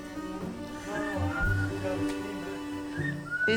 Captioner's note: whistles